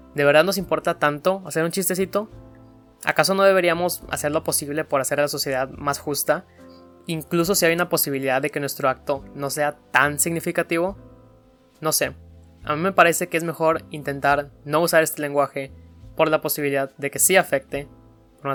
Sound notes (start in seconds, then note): none